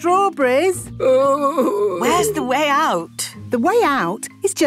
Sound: groaning

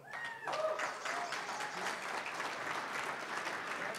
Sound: applause, cheering; applause

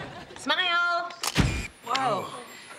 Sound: audience laughing; camera flashing

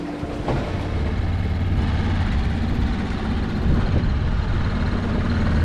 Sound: dinghy engine revving

